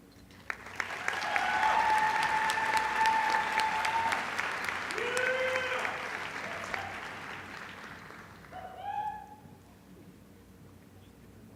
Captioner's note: applause